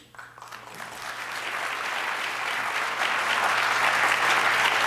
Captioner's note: audience applause